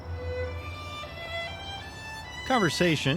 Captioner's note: gentle music; birds chirping